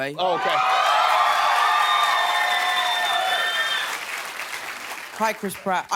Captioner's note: cheering